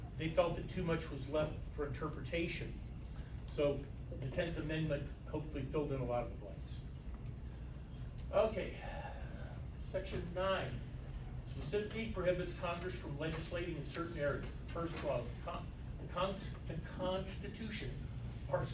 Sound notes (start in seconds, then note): 7.9 sighs; 15.4 stammers